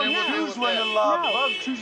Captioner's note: car alarm blaring